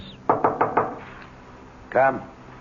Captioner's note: knocking